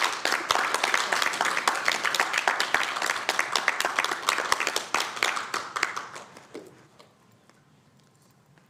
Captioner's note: applause